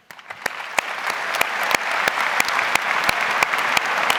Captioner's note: audience applauds